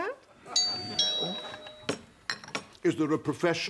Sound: doorbell rings

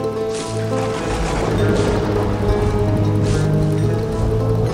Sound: lightning crashes

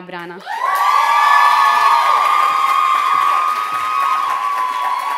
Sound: loud applause and cheering

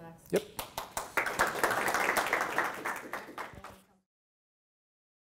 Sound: audience claps

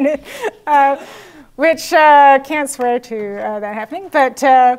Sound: laugh

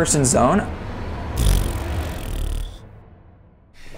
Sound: blows raspberry

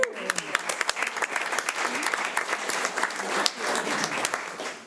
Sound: audience applauding

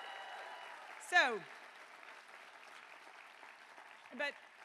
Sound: cheering

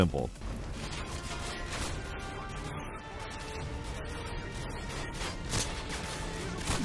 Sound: dramatic music; guns blasting

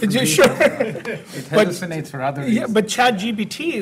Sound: both laughing

